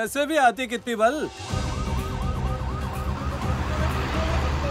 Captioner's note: Ambulance siren wails